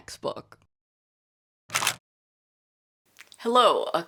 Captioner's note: camera shutter